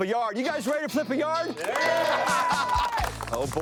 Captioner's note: cheering